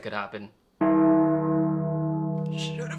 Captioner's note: bell tolls